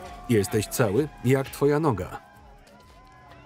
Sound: cheering

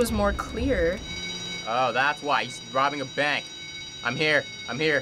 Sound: alarm bell ringing

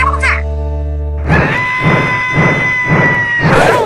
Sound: screams of agony

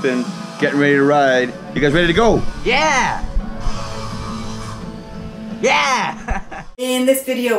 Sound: laughing

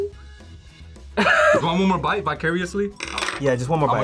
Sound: laughs

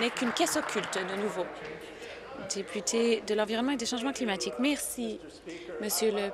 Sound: applause

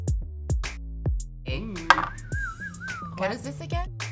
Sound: upbeat electronic music; whistles

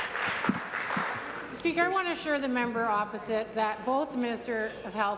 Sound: applause

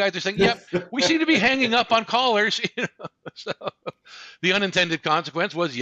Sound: laughs

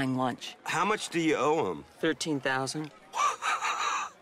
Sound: laughs

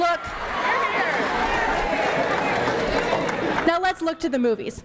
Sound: pauses for cheering and applause

